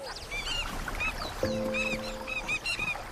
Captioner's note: squawking